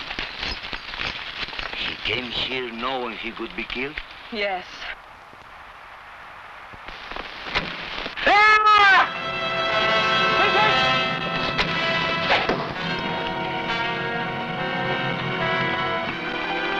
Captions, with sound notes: - He came here knowing he would - Yes. (arrow whooshing) (man screaming) (dramatic music) - Vincent! (arrow whooshing) (tense music)